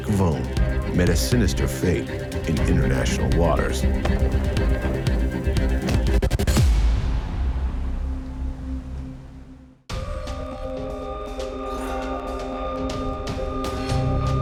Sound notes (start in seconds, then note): 4.0 thumping; 6.3 suspenseful music